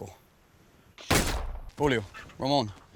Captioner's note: gunshot